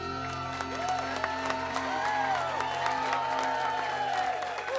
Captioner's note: people cheering